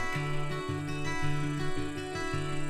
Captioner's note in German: Grillenzirpen